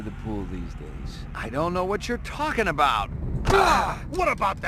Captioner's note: grunts